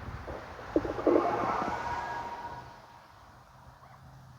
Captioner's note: telephone noise